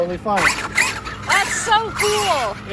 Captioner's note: tires whirring